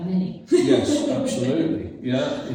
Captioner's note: laughs